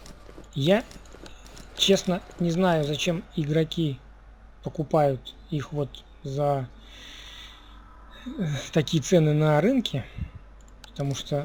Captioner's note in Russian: вздыхает